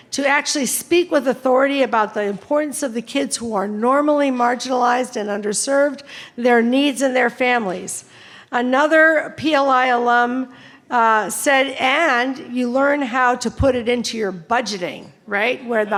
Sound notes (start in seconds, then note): none